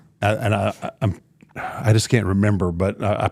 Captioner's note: sighs